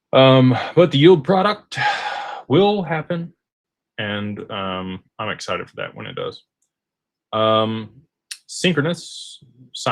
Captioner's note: sighs